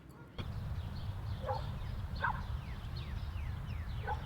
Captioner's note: dog barking